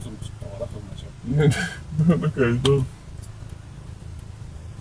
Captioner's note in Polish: śmiech i niedowierzanie